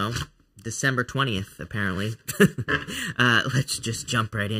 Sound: chuckling

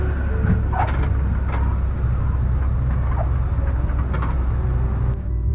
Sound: plane wheels squealing

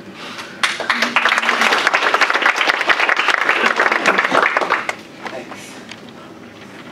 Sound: applause

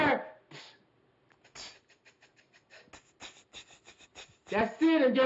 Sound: beatbox percussion

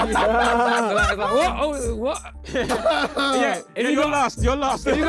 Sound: laughing

